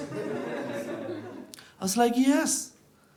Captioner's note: audience laughs